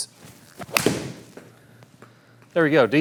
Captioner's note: hitting golf ball